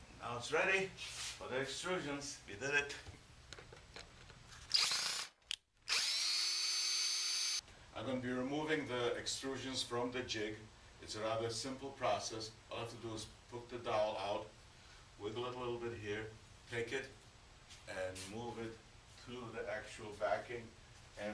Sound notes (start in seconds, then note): 4.6 screw gun whirring